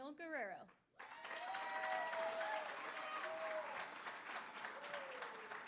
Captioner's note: applause; cheering